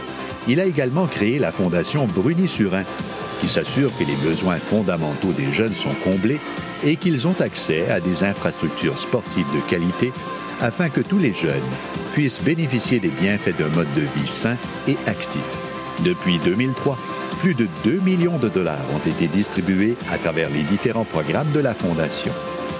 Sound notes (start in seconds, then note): none